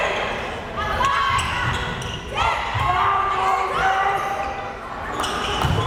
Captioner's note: players shouting